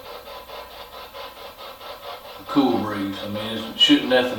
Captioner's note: machine humming